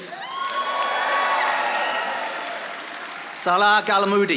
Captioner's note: audience applauding